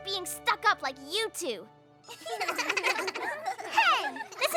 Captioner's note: laughter